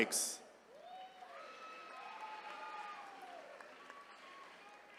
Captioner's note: attendees cheering